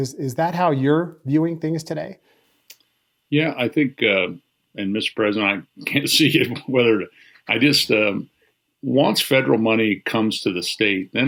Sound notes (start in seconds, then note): 5.8 laughs